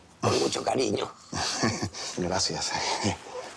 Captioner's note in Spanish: Risa nerviosa